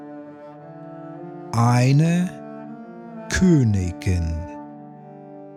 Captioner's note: german